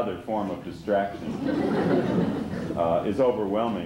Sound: laughter

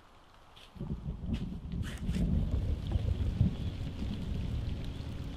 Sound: thunder

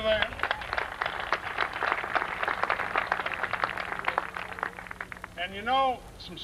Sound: applause

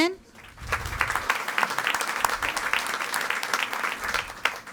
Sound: audience applauding

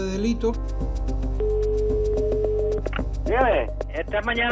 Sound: dial tone

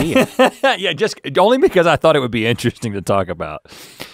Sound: laughs

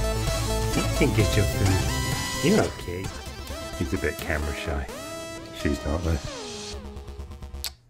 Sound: kissing sound

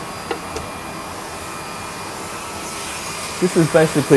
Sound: loud whirring

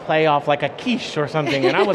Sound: laughing

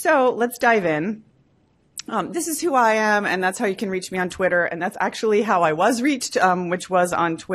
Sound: none

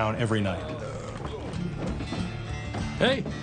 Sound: man burps

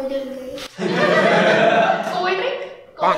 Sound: laughing

